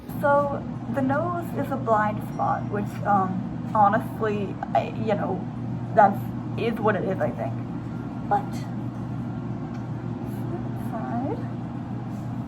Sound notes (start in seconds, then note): none